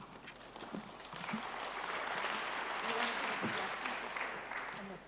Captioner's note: applause